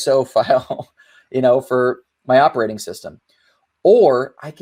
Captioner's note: laughing amusingly